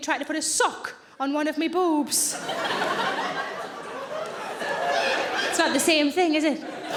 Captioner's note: audience laughing